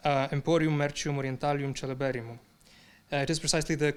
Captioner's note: speaking in foreign language